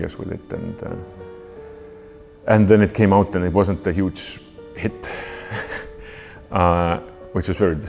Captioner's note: chuckles